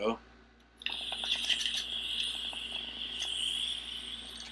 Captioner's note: air hissing